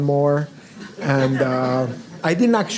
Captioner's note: audience laughs